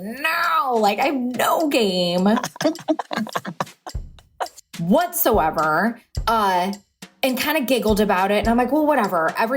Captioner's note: laughs